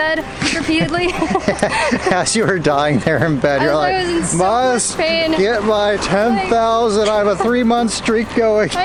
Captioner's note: laughter